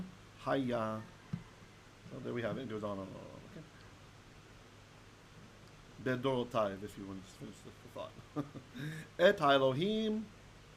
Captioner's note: Hebrew